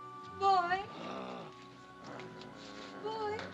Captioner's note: Mowgli growls